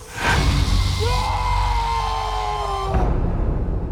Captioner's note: man screaming